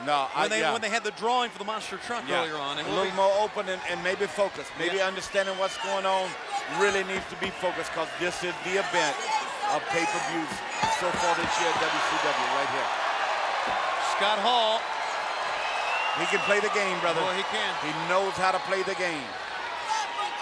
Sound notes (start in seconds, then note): 13.3 crowd cheering